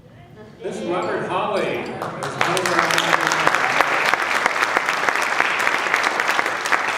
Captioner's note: applause drowns out speaker